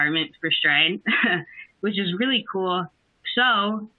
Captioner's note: laughs